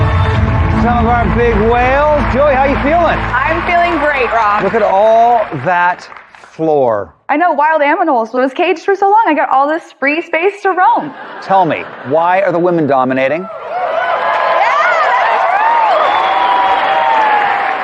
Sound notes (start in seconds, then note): 13.3 cheering and applause